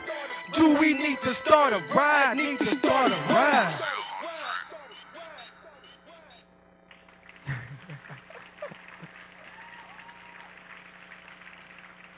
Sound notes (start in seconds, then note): 6.8 applause